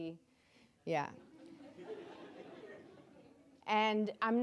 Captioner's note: audience laughing